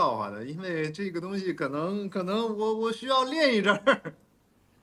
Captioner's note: laughs